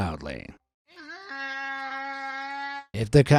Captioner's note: donkey braying